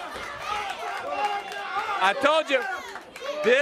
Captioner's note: crowd cheering